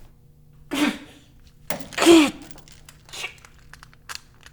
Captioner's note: grunting